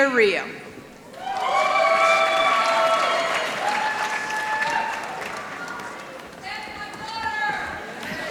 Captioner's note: applause